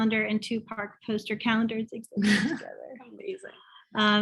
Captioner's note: both laugh